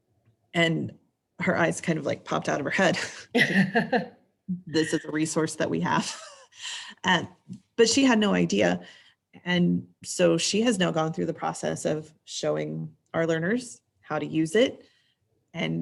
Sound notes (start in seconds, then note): 3.0 laugh; 6.7 laughs